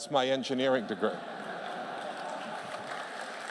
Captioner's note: laughter; applause